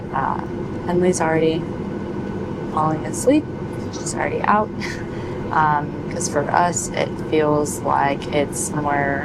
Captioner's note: snorts